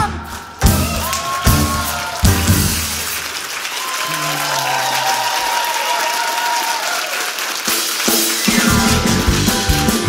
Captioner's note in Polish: oklaski publiczności